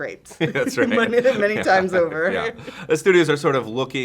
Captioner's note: laughs